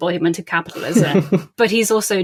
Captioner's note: laugh